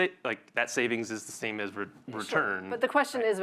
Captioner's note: none